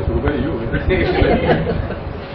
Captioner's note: Gülüyorlar